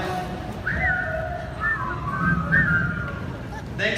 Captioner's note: whistling